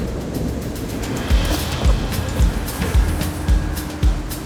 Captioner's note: thunder rumbling; pulsing percussive music